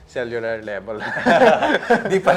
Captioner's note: laughs